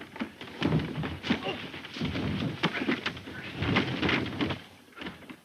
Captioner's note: body thuds; bodies scuffling